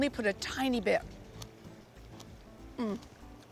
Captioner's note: crunching